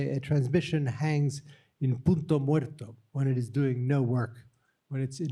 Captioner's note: spanish